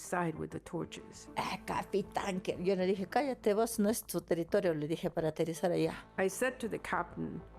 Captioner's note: speaking in foreign language